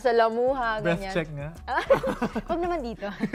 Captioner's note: laughter; laughing